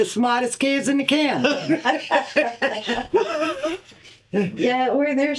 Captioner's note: laughter